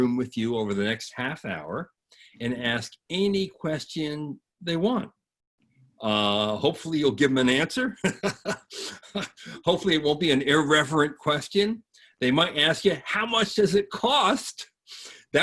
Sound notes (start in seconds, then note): 7.8 all laughing